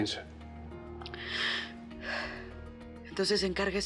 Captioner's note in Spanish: Suspiros